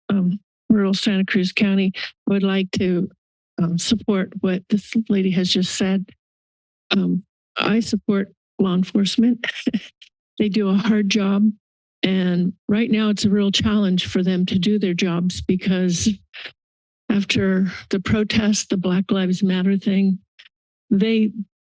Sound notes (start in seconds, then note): 9.2 laughs